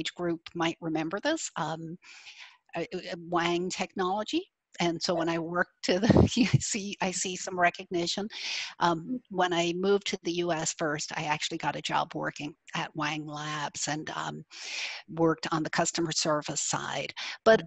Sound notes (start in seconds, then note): 6.6 laughs